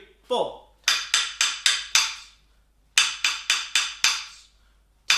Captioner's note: wooden tapping sound